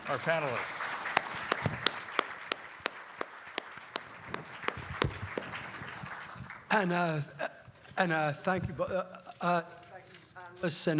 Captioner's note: applause